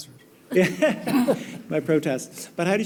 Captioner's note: laughing